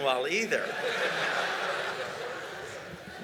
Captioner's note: laughter